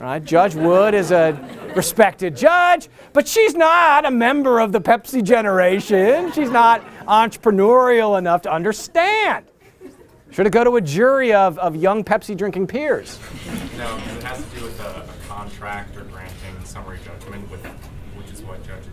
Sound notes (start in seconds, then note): 5.6 laughter